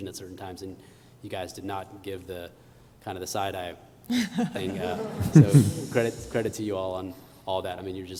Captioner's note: laughter